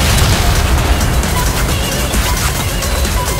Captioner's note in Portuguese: beeping